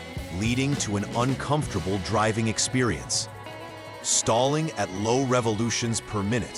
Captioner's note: RPMs